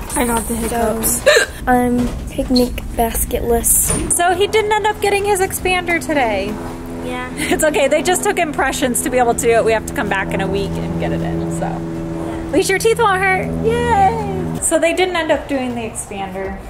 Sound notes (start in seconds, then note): 1.2 Bella hiccups